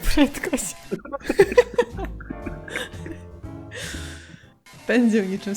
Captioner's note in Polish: śmiech